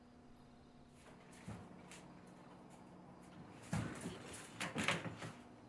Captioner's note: fridge hums